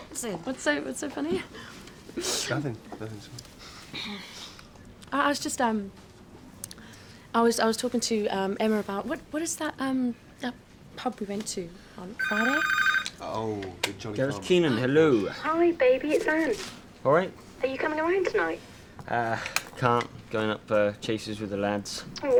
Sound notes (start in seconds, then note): 12.2 phone rings